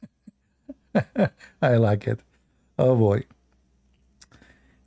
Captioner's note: Ketawa